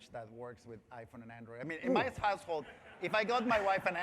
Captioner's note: laughter